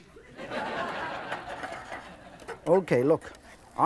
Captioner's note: audience laughs